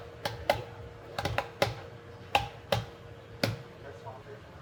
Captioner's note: board tapping